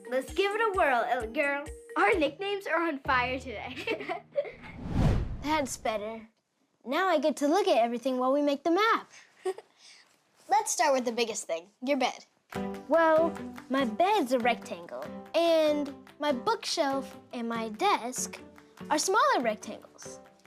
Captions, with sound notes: Let's give it a whirl, Ellie Girl. - Our nicknames are on fire today. (both giggling) - That's better. Now I get to look at everything while we make the map. - Let's start with the biggest thing, your bed. (gentle music) - Well, my bed's a rectangle and my bookshelf and my desk are smaller rectangles.